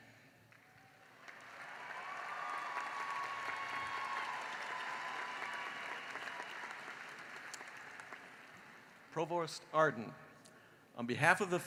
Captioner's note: cheering and applause